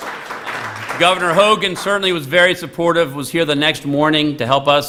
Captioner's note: applause